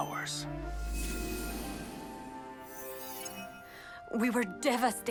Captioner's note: magical buzzing